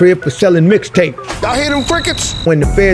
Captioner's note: crickets chirp